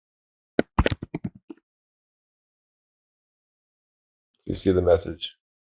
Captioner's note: keyboard typing